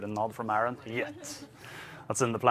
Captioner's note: laughs